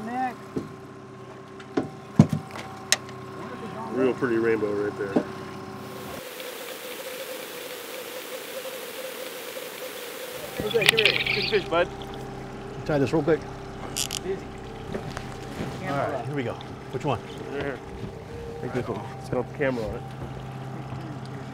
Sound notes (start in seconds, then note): 0.0 trolling motor humming; 6.8 water gurgling